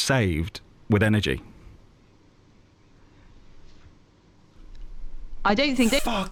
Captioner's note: silence